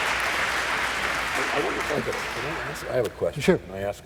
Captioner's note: applause